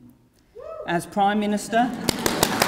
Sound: cheering

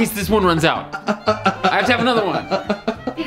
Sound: Rocky laughs

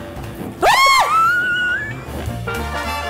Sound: both screaming; bright jazz music

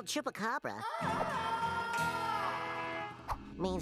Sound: wailing

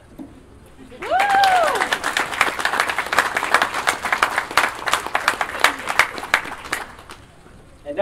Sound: audience Applause

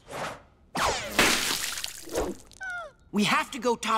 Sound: whimpers

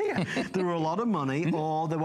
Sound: laughter

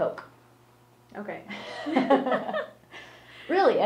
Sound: laughs

